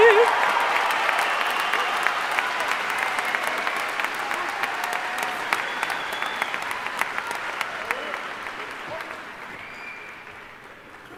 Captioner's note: cheering and applause